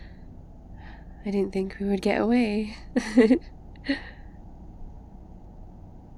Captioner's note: car ambience; sigh of relief; laughs